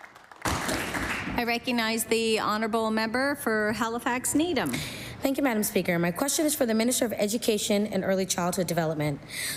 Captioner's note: applause